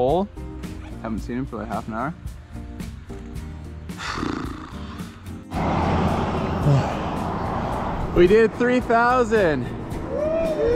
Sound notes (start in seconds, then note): 3.9 blows out air softly; 10.0 men cheering softly